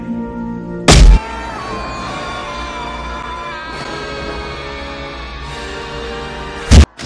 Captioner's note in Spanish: Grito de Ministro cayendo del cielo